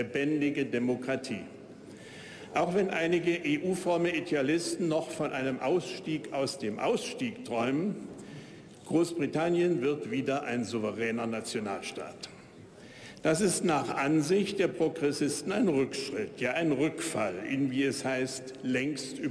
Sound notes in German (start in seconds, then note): none